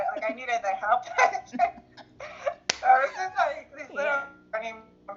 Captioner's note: laughs